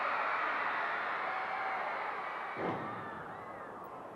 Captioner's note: panel banging